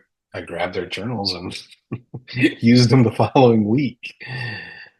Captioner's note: chuckles